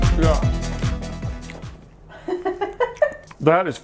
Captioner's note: laughs